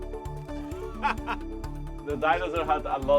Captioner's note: soft music playing; laughing